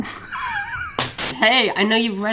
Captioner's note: chuckles